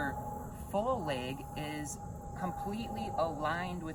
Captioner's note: loud airplane overhead